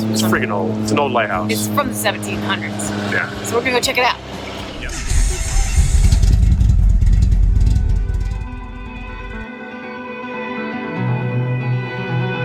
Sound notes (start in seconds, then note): 6.6 engine revving; 9.8 upbeat music